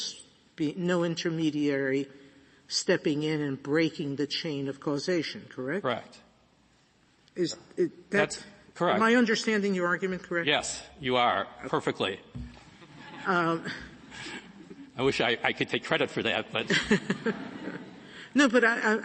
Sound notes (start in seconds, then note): 16.6 laughter